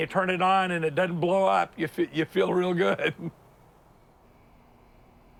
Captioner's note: laughs